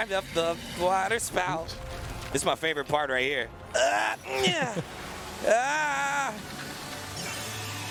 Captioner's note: laughter